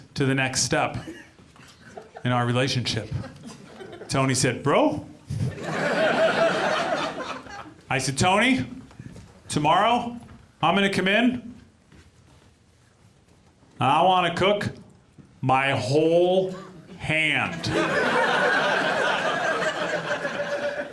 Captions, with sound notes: "to the next step... in our relationship." -Tony said, "Bro?" -[AUDIENCE LAUGHS] I said, "Tony, "tomorrow I'm gonna come in "and I want to cook my whole hand." [AUDIENCE LAUGHS]